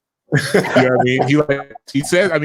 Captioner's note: laughing